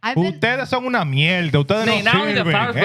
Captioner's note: speaking Spanish